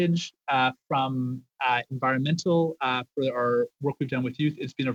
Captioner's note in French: voix de l'interprète